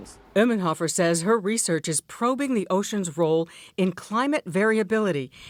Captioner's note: voice-over